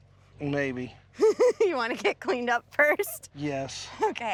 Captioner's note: laughing